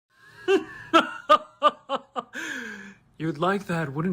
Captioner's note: evil Laugh